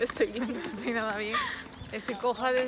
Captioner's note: laughs